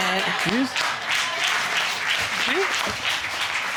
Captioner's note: audience applauding